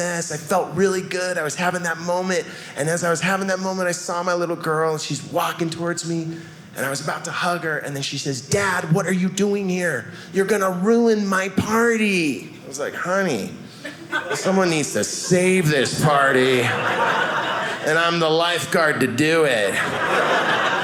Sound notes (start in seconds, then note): 16.3 audience laughing